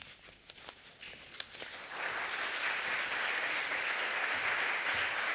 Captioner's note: applause